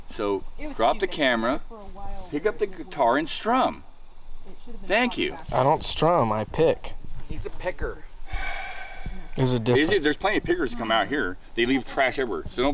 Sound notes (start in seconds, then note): 8.3 sighs